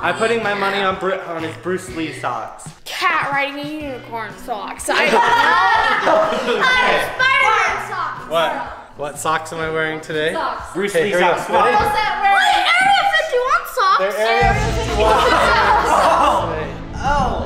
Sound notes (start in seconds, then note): 5.0 laughing; 14.9 laughing